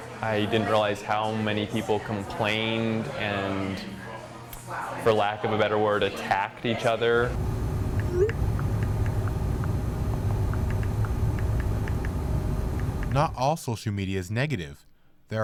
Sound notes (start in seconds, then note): 7.2 beeps; 8.4 typing